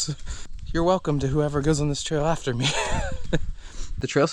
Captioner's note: laughs